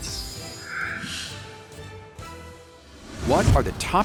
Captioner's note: air whooshing; triumphant upbeat music